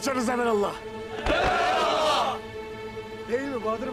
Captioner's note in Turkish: Hep bir ağızdan